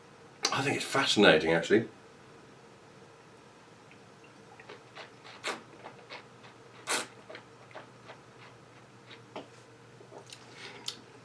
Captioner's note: slurping